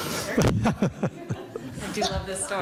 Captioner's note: laughs